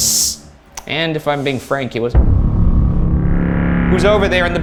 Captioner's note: hisses; intense music; hissing